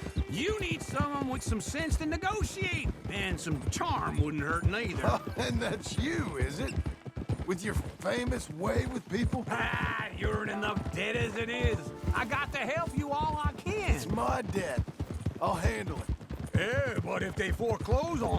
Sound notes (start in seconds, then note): 4.7 laughs; 9.8 grunts